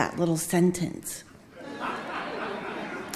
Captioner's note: audience laughing